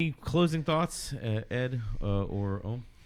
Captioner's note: uh